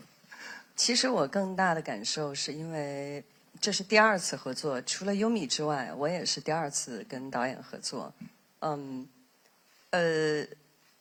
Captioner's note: speaking